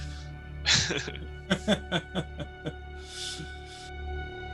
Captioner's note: both laugh